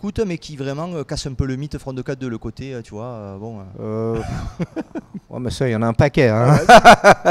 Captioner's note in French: rires